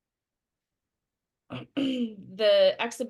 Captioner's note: clears throat